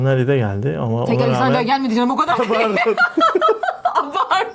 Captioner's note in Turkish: kahkaha